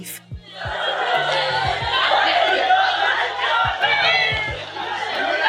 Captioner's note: people screaming